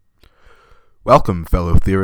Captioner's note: takes deep breath